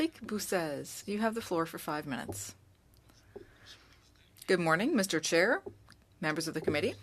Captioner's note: speaking French